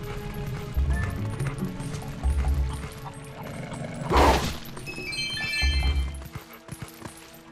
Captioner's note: snort